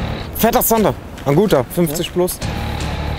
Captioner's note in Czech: mluví německy